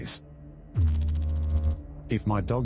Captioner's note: electrical noise